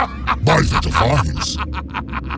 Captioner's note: Acoleyet laughs hard; Acoleyet continues to laugh hard; Acoleyet laughs hard